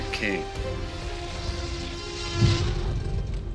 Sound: T-Rex roaring

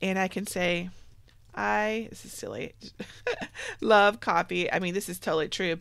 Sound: laughs

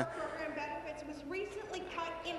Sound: none

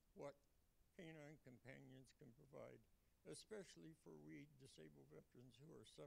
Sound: none

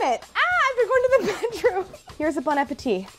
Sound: yells

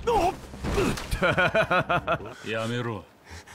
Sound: laughs

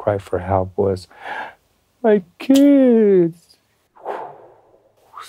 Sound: whoosh

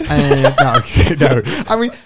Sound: all chuckling

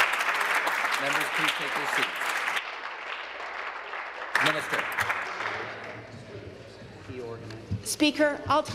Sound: applause

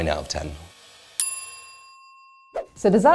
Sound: bell dings

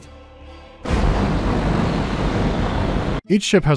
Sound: roaring of overcharged propulsion thingies

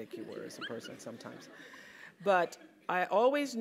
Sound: laugh

